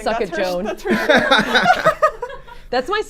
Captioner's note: group laughs